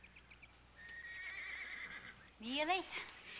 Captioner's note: horse neighing